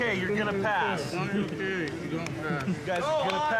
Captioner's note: trainees mumbling